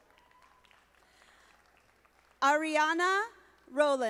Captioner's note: audience applauding